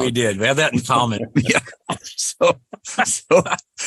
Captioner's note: laughing